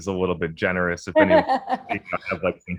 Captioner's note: laughs